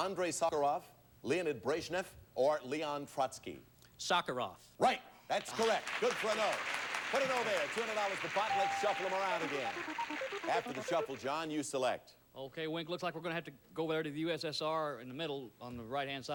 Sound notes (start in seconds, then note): 5.4 audience applauding